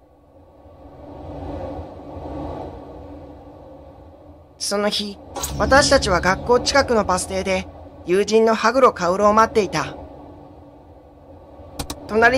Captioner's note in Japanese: 風の音：ﾋｭｵｵｫｫ…